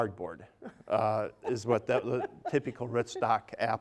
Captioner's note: laughing